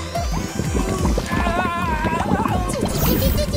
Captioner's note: Washy-Moshy giggles happily; chokes, groans